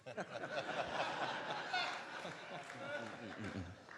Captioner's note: crowd laughs